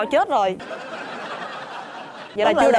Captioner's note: laughing